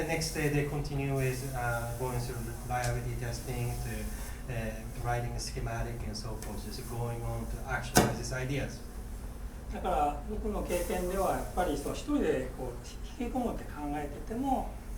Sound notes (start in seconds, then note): 8.1 bang; 9.8 speaking in foreign language